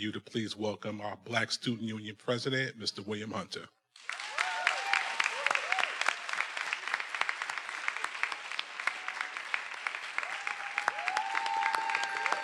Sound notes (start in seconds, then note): 4.0 everyone applauding; 4.1 attendees cheering